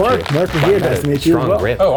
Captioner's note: bones crunching